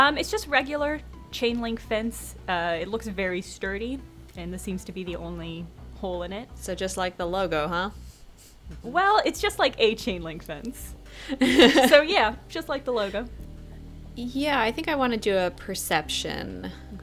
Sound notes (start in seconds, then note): 11.3 laughs